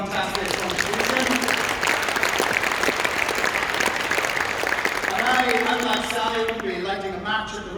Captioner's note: applause